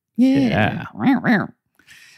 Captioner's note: imitates dog barking